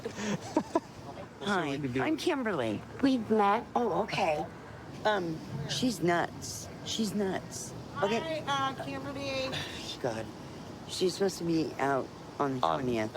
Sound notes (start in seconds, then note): 0.0 laughing; 9.3 scoffs